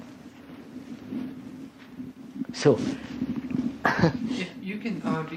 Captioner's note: laughs